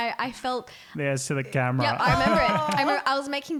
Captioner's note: voice muffled